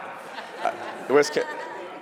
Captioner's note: laughter